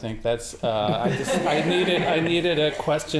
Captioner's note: audience laughing